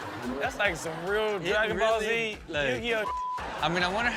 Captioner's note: beep